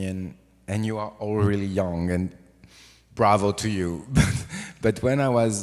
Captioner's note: olivier chuffs